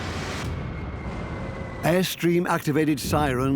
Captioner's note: high-pitched whistling